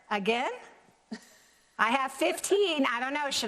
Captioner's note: laughs